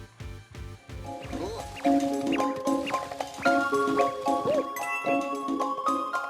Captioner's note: Super Mario Galaxy sounds